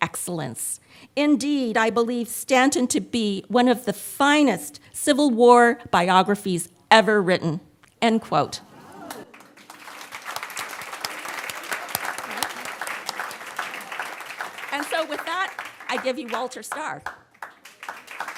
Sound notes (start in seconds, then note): 9.1 audience applauds